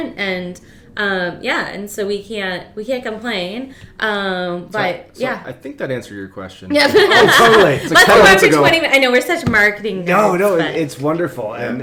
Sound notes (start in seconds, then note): 6.7 laughing